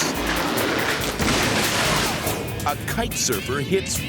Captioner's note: ceiling crashing